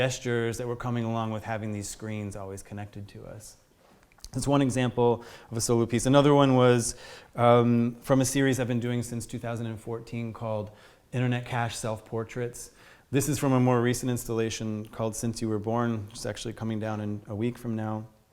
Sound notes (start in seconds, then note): none